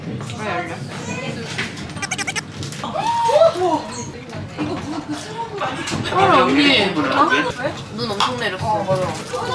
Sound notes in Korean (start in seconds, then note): 2.8 옆에서 들리는 환호성